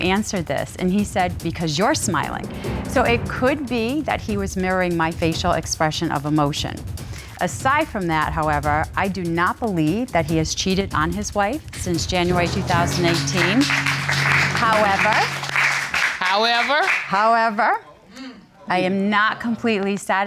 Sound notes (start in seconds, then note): 12.0 audience applauding